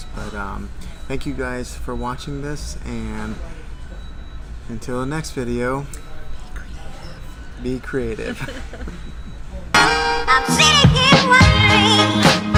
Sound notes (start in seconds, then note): 7.9 laughing; 9.7 funky music